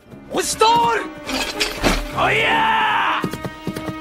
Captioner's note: weapon clanking; deer galloping